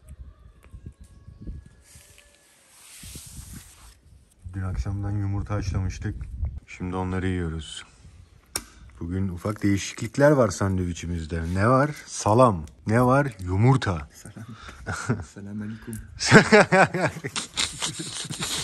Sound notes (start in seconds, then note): 16.2 both laugh